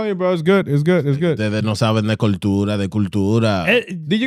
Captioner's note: speaking In Foreign Language